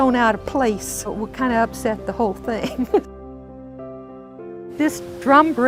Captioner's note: laughing